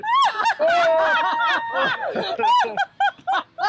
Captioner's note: crowd laughing